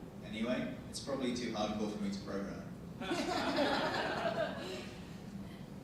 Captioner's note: audience laughing